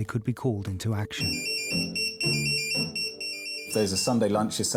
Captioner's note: pager beeps